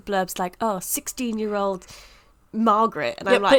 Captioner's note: puts on dramatic voice